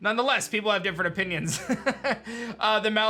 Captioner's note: chuckles